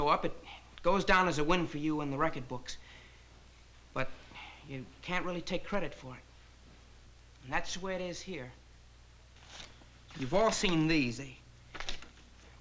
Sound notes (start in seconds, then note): none